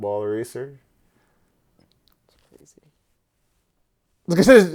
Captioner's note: laughing